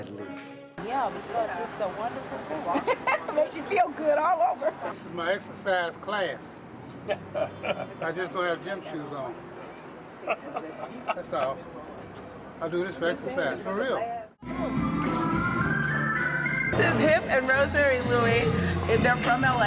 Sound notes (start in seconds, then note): 2.7 laughs; 10.2 laughs; 14.4 upbeat music